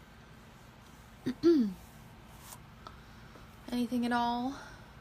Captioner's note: clears throat